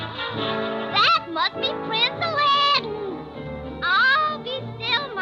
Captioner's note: gasping